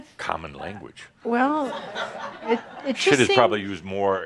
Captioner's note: some chuckles